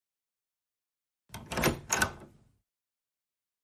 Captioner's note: door opens